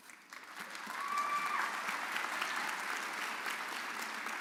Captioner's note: audience applauding